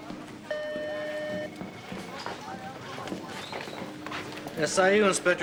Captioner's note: phone ringing